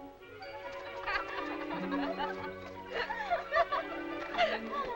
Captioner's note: girls laughing